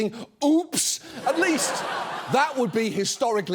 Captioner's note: audience laughs